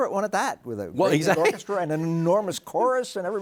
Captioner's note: chuckles